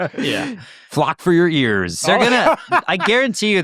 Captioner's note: laughs